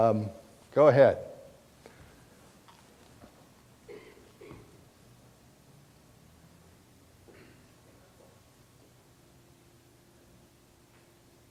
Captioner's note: pause in dialogue